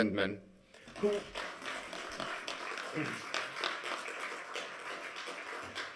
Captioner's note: applause